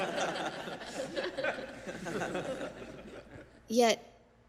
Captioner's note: risadas da plateia